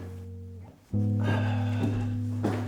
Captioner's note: sighing